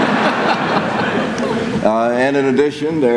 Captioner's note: laughter